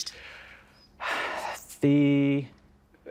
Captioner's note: sighing